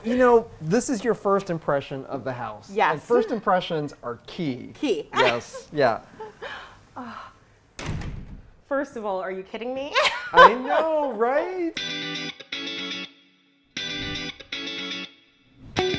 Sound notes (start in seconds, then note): 10.0 laughs; 11.5 up bright music